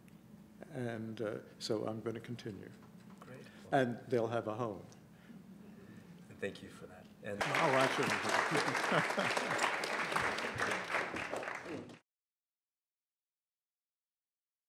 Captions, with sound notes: And so I'm going to continue. And they'll have a home. Thank you for that. [APPLAUSE]